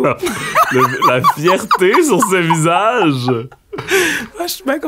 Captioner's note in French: éclat de rire